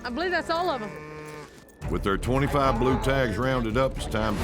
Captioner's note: cattle mooing